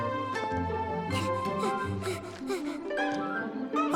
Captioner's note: panting